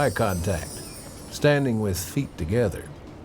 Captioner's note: bells chiming